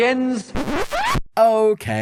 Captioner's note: record Scratch